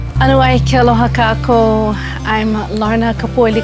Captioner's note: speaking in Hawaiian